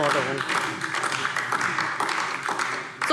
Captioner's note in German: Beifall